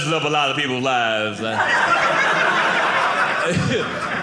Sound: audience laughing

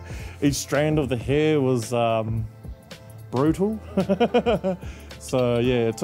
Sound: laughs

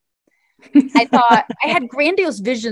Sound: laughs

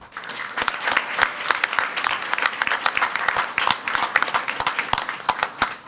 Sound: crowd clapping and cheering

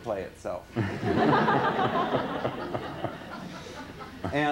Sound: laughter

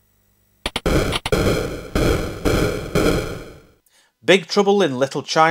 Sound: game sound FX

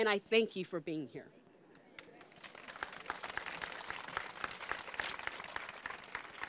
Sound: applause

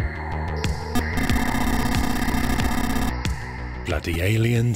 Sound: rapid electronic beeping

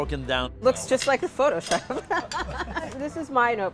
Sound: laughs

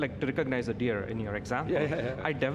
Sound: giggles

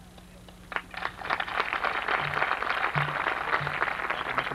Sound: applause

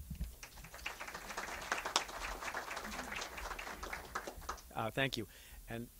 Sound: clapping

